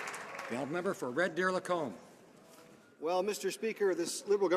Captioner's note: some Applause